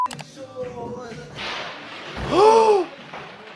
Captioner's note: person crashes; table thumps; doctor gasps